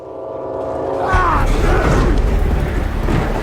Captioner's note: yelling